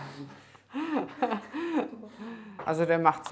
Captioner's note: laughter